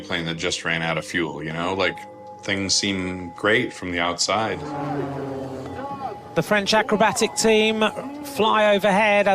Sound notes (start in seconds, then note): 4.3 jets buzzing